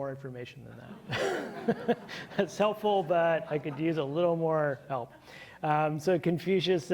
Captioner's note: chuckles